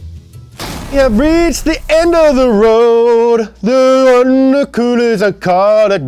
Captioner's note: dramatic music; hamming